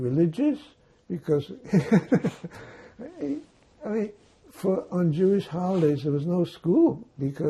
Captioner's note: laughing